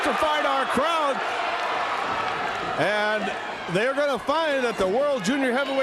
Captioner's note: crowd cheering